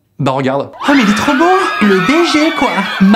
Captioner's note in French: Hurlement